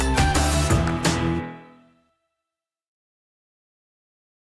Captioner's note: music stops